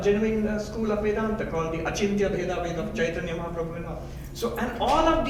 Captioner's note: speaking in foreign language